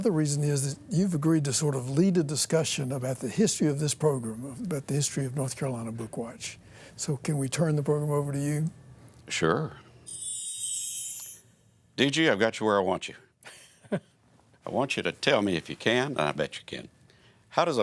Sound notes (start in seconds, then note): 10.1 jingling sound effects